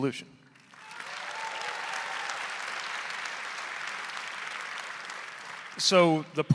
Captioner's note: audience applauding; audience cheering